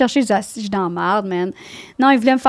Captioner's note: in french